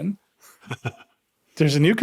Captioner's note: laughing